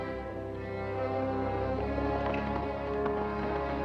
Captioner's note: hoofbeats approaching